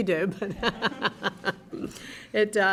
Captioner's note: laughter